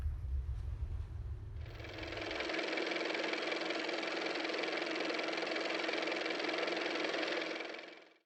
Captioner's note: car motor